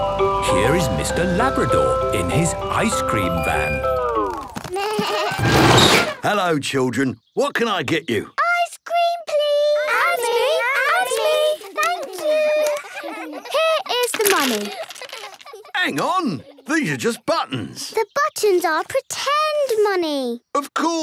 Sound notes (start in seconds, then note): 4.3 bleating, trumpeting